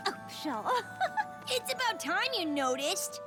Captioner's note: giggle